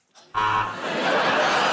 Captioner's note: laughter